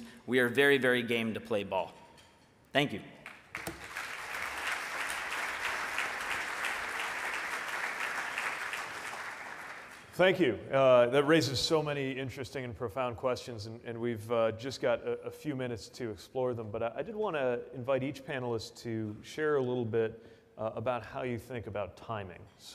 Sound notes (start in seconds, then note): 3.2 audience applauds